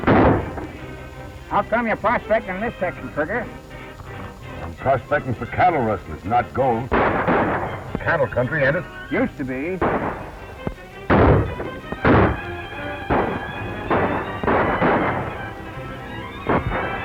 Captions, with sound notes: How come you're prospecting in this section, Trigger? I'm prospecting for cattle rustlers, not gold. It's cattle country, ain't it? Used to be. [gunshot] [gunshot] [gunshots]